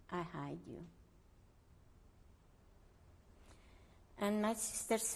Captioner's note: pauses for 3 seconds